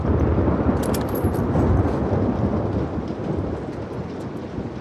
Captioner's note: thunder rumbling